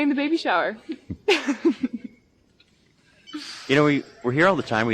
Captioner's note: laughing